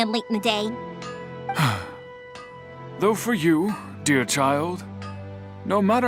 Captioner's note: sigh